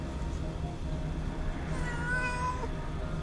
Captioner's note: rico meows